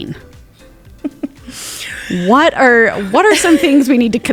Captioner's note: chuckling